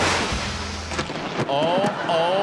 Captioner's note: lightning cracks